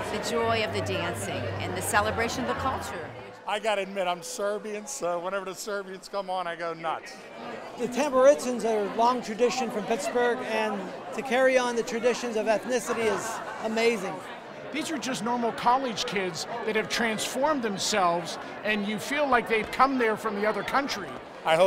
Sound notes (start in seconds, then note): none